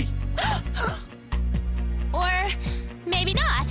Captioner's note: gasps